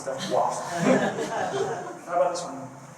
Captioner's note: laughter